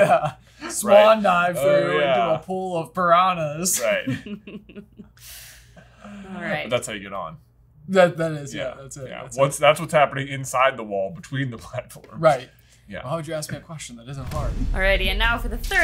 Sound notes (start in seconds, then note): 3.8 laughs